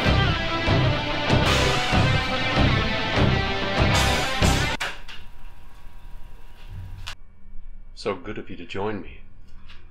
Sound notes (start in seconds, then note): 4.9 stereo clicking